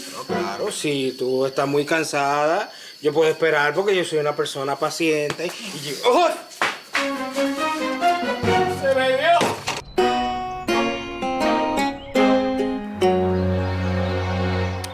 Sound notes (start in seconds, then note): 6.0 shout